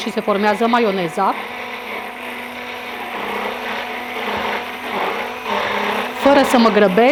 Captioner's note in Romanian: sunetul blenderului